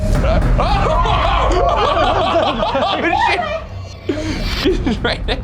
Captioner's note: exclaiming